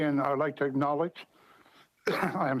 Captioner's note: speaking french